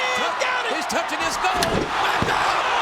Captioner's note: crowd cheering; steel rattling